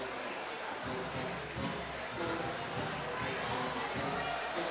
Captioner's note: audience chattering